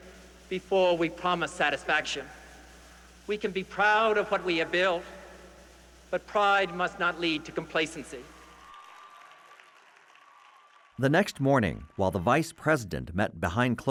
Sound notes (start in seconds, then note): 10.8 audience cheers and applauds softly